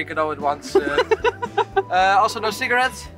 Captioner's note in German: Lachen